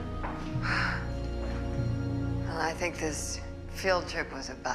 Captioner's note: exhales sharply